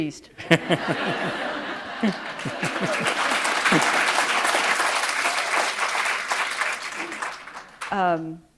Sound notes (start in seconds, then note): 2.3 laughter; 4.8 applause